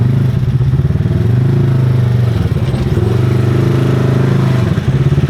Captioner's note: ATV engine roaring